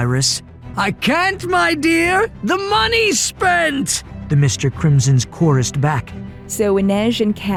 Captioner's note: somebody yelling in a sing song offkey; yelling in a deeper voice